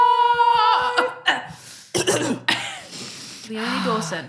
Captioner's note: both coughing